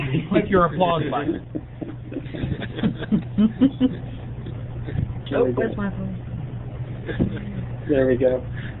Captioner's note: laughter